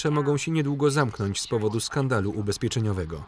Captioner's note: TV news comes on